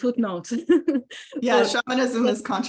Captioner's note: laughs